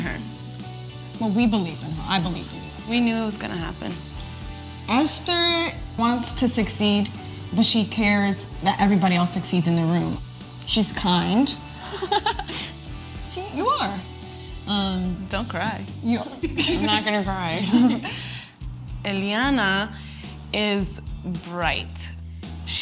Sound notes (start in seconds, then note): 11.8 laugh; 15.5 laugh